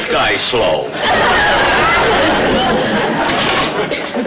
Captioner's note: audience laughter